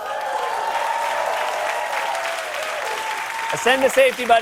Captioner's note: cheers and applause